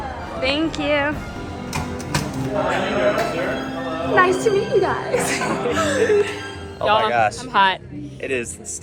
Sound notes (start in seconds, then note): 5.1 laughs